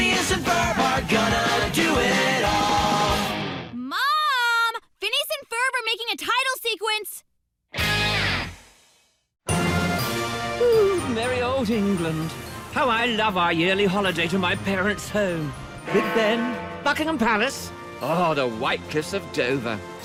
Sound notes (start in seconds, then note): 15.4 rings